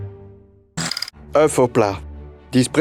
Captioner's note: slide rolling